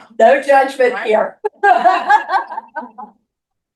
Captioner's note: laughing